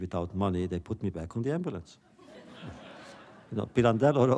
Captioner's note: laughter